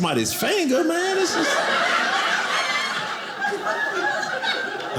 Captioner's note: audience laughing